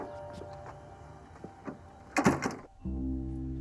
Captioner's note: door closes